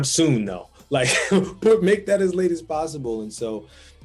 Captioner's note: laughing